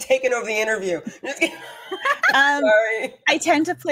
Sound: laughs

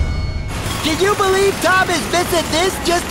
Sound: pneumatic drill

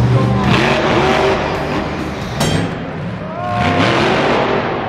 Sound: truck engine revs

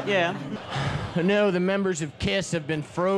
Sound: sighs

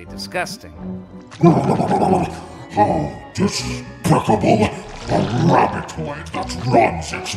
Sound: grumbles

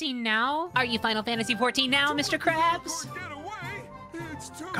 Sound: SpongeBob Voice

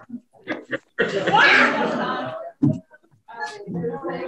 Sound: people laugh

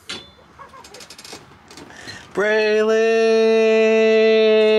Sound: door opens

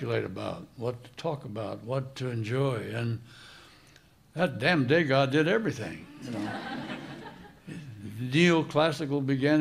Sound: laughter

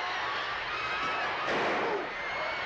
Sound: bang

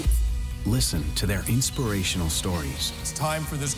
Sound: voiceover

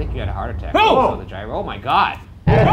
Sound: group gasping

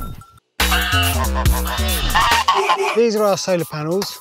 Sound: laughing; animal sounds

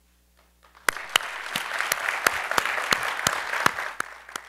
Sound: crowd applauding

